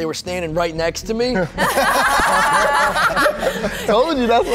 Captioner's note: everyone laughs